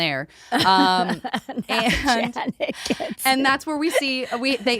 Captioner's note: laughs